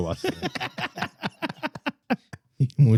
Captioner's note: laughing; speaking In Foreign Language